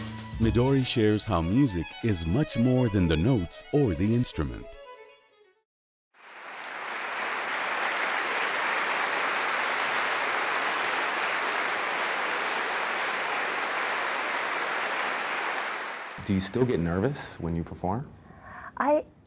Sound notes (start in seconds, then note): 6.2 applause